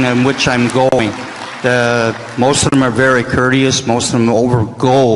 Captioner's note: applause